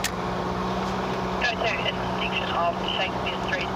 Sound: woman over radio

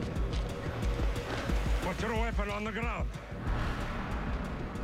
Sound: eastern European accent

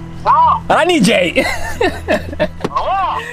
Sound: laughter

